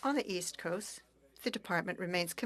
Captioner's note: speaking French